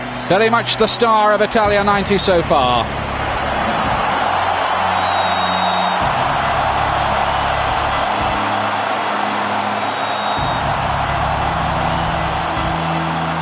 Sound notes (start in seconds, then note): 5.1 whistle blows; 8.9 crowd cheering